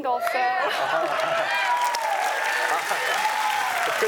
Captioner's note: audience cheers and applauds